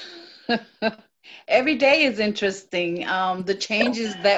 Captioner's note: laughter